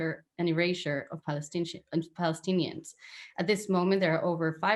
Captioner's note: stutters